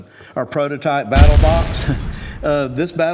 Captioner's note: box explodes